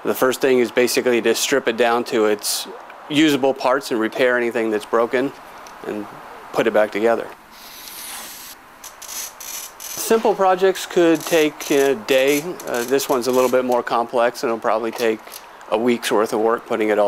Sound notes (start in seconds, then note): 7.6 marker swoosh; 8.8 glass cutter creaking